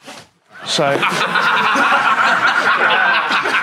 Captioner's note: Sidemen laugh